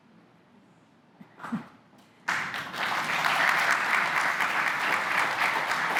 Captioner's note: applause